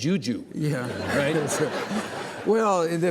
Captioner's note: audience laughing